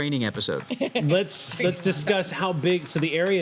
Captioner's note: laughs